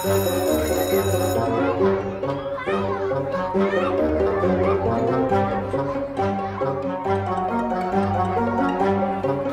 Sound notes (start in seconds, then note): 0.0 bell ringing; 3.4 children chattering